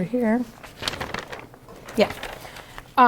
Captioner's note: rustling